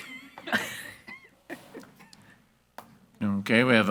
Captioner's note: board Members laughing